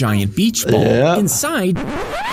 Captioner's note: record scratches